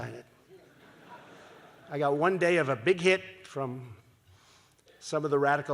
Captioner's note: laughter